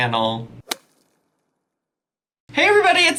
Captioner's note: logo whooshing